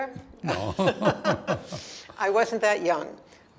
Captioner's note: both laugh